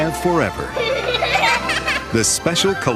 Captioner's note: laughs